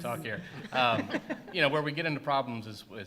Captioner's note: laughter